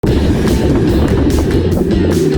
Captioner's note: bubbles blowing underwater